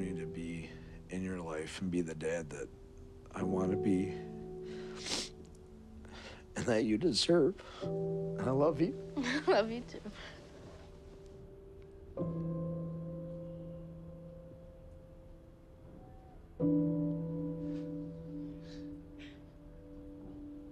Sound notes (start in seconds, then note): 9.2 chuckles